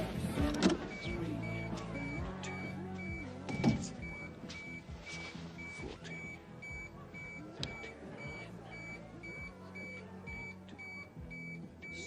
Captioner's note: beeper noise